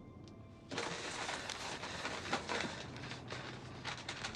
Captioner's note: map rustling